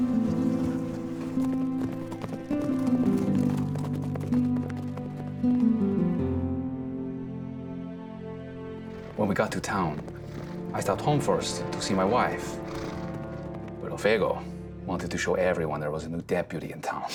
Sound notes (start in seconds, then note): 0.0 footsteps; 2.2 horses trotting